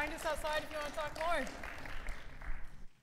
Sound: audience claps

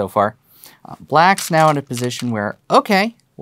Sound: stones rattling

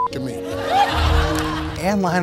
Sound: audience laughing

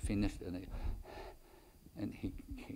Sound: inhales and exhales loudly

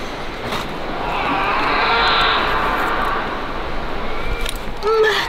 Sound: animal crying

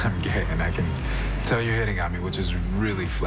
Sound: chuckling

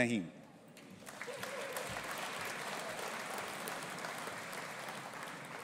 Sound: audience applauding

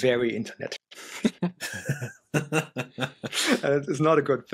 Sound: laughter

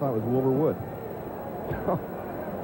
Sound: laughs

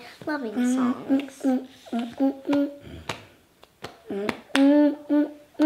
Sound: humming continues

